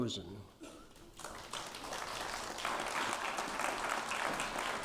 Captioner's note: applause